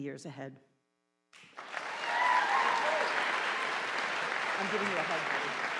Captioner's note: audience applauding